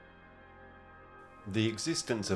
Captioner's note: speaking in foreign language